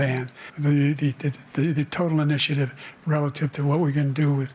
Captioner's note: stutters